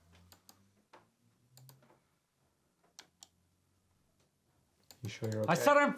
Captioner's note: computer mouse clicking